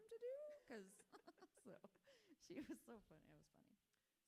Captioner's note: laughs